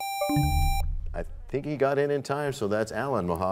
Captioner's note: buzzer sound; bell chimes, time expires